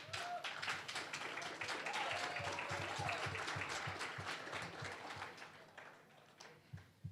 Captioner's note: applause